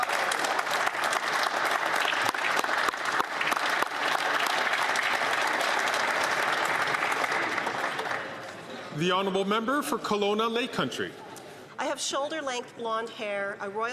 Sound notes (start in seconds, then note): 3.8 some Applause